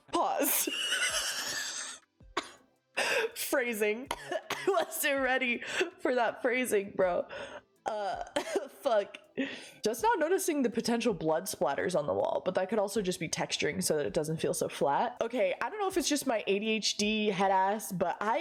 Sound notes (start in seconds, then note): 0.4 laughing; 4.1 coughing out words; 7.2 another gasp; 7.2 gasp